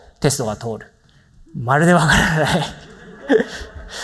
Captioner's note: chuckles